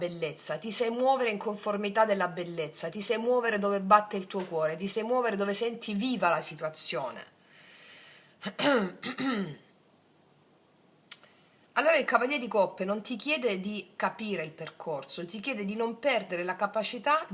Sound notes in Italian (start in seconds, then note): 8.4 tosse; 8.5 schiarire la voce